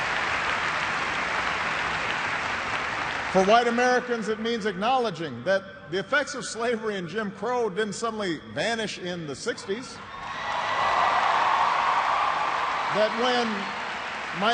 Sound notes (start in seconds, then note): 1.9 applause